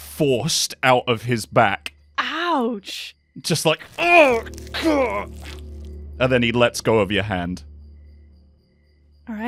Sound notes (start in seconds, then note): 3.8 sounds of an arrow being pulled out of flesh; 3.9 pained groan